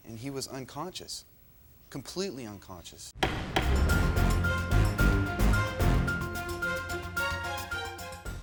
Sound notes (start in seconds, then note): 3.2 gavel pounding; 3.2 tense uptempo music